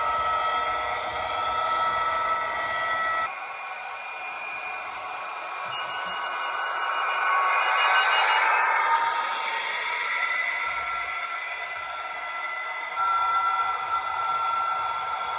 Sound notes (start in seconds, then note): 9.4 alarm